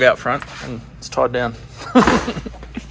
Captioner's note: laughs